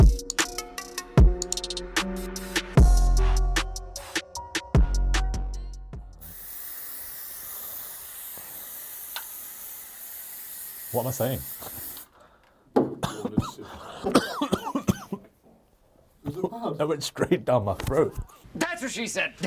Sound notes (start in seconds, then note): 6.2 spraying; 12.9 coughing